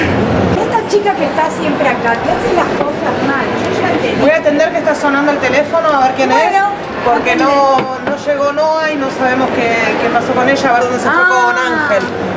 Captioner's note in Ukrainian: Щось говорять аргентинською іспанською